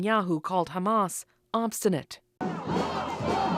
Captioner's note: speaking alternate language